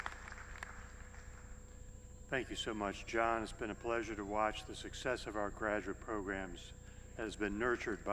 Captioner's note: applause